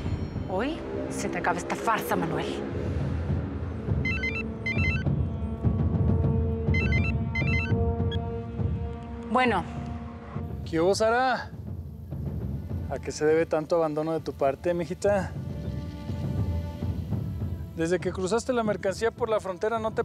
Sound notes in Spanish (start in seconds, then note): 6.7 suena el celular